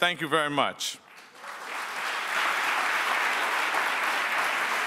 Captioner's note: audience applauds